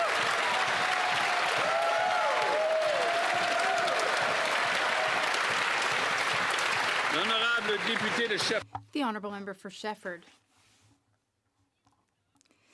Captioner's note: applause